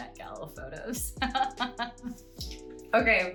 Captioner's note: laughing